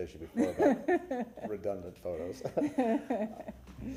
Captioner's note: laughter